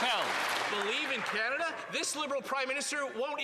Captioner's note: applause